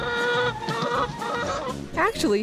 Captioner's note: chicken clucking